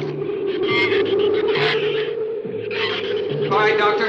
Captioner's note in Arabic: ثرثرة الزبابة; عواء الريح